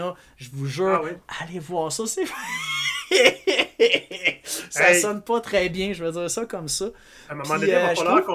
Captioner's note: heh heh heh